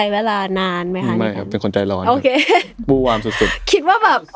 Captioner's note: laughs